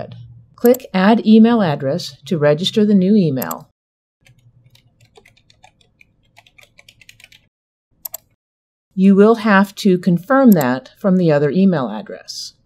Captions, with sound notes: Click Add Email Address to register the new email. [typing] You will have to confirm that from the other email address.